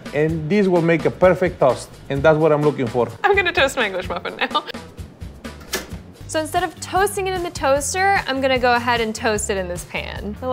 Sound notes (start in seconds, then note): 5.6 toaster clicking